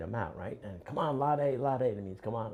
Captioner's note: non-english